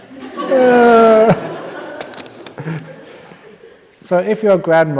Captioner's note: laughter